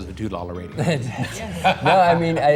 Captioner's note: laughter